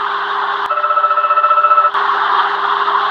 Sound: fire Alarm

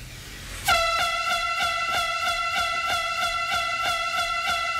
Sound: sons de alarme de incêndio

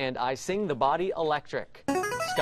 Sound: buzzer plays

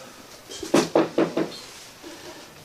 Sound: knock on the door

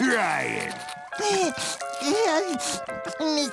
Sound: crying

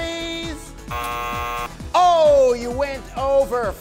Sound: buzzer

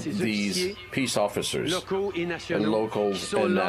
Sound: speaking French

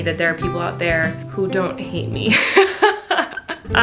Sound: laughing

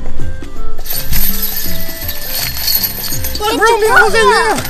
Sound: rattling chains

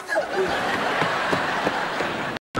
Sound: laughing

